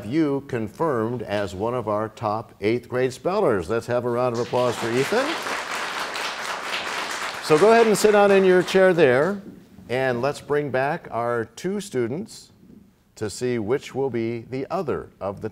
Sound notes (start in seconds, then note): 8.8 applause